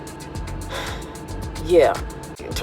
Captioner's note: sigh